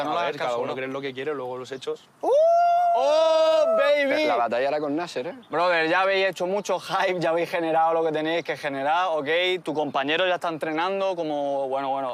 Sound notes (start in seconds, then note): 2.3 they shout